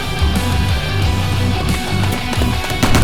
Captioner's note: gunshots